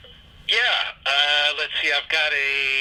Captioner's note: radio Chatter